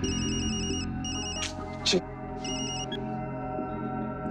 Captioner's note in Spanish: Suena un celular